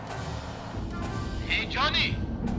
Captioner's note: radio